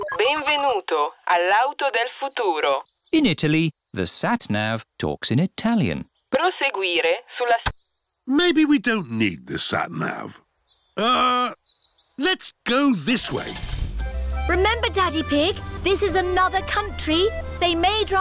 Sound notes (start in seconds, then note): 0.0 beeps; 2.4 speaks italian; 6.6 sat nav talks in italian; 13.2 starts engine